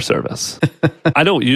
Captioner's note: laughs